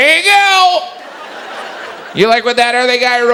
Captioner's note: audience laughs